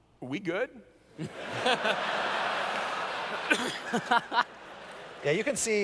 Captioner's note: laughter